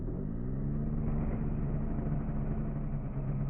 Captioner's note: engine starting up